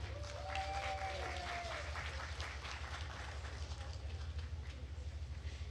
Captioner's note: attendees cheering and applauding